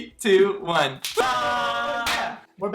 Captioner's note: snaps; cheering